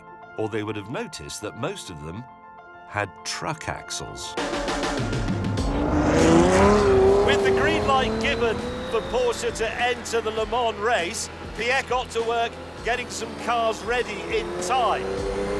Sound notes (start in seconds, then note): 5.5 engine roaring